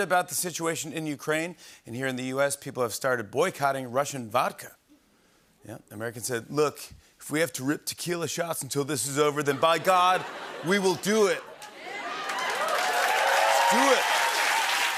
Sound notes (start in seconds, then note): 11.6 cheers and applause